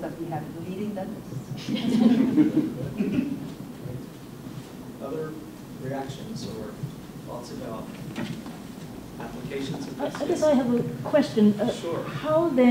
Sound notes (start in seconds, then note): 1.6 laughter